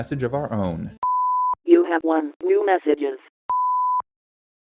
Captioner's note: beep